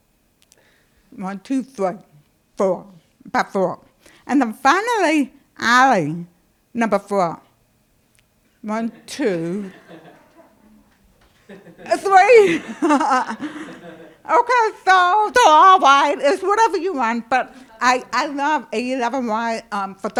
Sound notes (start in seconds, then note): 8.8 laughter